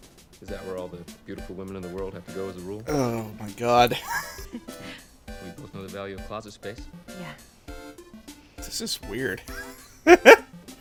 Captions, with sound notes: "Is that where all the beautiful women in the world have to go as a rule?" "Ohhh, my GOD. *wheeze*" "We both know the value of closet space." "Yeah!" "This is... Weird. *laughter*"